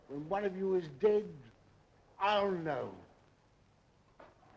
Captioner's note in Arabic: none